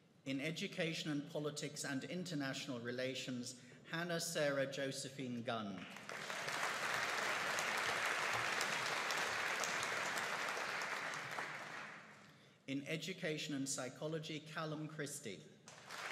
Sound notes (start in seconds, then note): 5.9 audience applauding